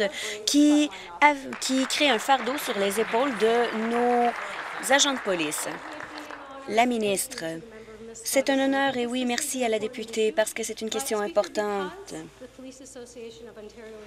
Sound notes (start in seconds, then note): 4.6 applause